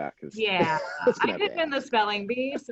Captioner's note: laughing